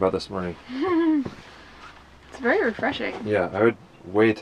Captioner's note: laughs